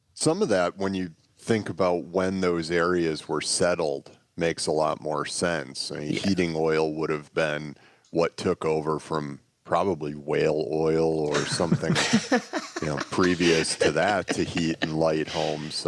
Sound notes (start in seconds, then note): 11.2 laughter